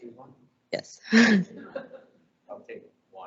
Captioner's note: laughter